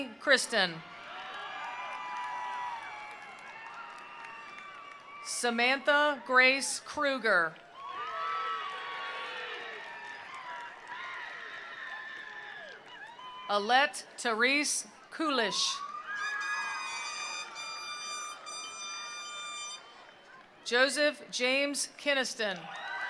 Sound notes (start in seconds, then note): 0.8 attendees cheering; 0.9 attendees applauding; 7.5 attendees applauding; 7.6 attendees cheering; 15.4 attendees cheering; 15.8 attendees applauding